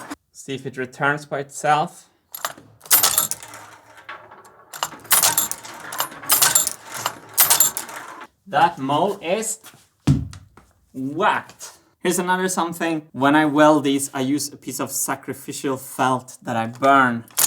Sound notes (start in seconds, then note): 2.9 marbles gates ringing; 10.1 whack